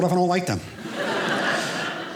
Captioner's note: audience laughing